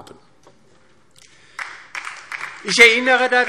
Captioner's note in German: Beifall DIE LINKE und vereinzelt SPD